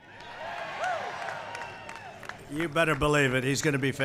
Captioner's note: applause